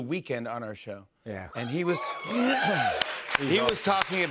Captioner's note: audience cheers